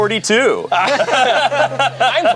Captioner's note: everyone laughs